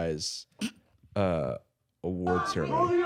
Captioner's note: snorts